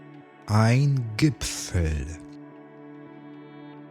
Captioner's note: german